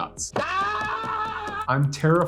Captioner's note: screaming